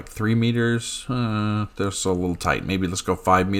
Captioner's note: scoffs